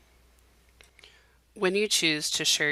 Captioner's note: silence